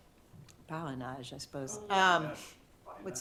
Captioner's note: french